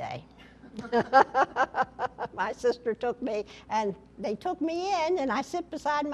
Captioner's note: laughter